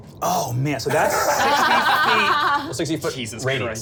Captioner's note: laughing